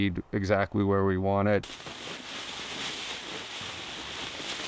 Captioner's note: bag rustles